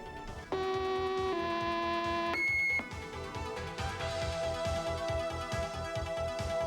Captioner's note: alarm blares